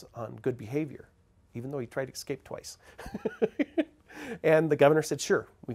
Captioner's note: laughs